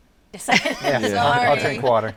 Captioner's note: all laughing